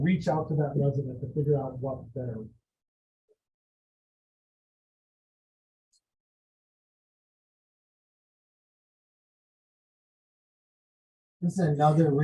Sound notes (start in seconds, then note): 2.4 audio drop